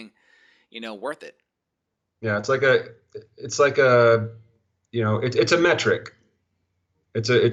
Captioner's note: stuttering